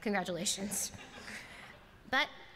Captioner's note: laughter